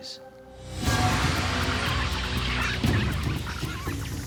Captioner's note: bats squeaking